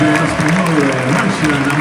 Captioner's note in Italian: Applauso